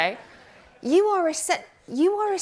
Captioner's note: laughing